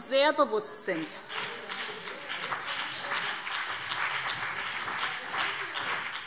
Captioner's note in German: Beifall BÜNDNIS 90/DIE GRÜNEN und CDU - Zurufe SPD